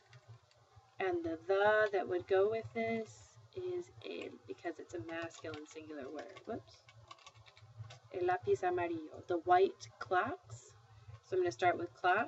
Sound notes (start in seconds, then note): 7.2 speaking spanish